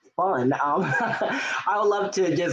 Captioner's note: laughing